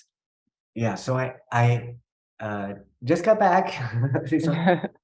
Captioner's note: chuckling